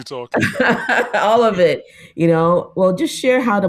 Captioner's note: laughs